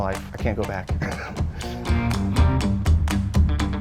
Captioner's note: chuckles; instrumental rock music